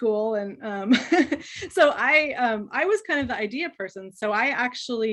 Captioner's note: chuckles